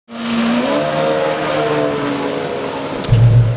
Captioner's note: motor revving